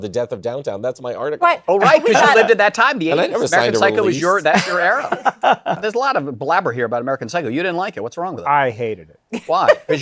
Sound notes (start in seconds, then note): 4.5 laughter